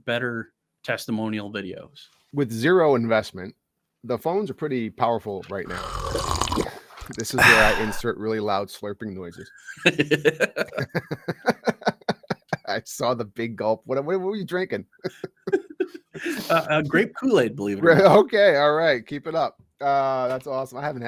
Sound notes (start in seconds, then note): 5.6 slurps; 9.7 both chuckling